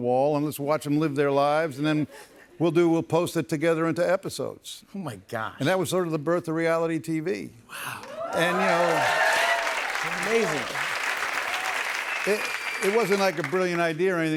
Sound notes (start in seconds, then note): 8.0 cheers and applause